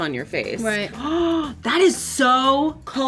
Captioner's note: gasping